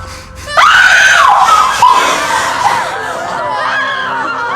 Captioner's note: people screaming